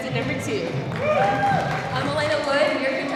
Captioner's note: audience cheering